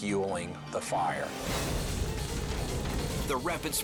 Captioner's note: fire roaring